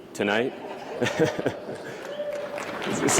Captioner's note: applause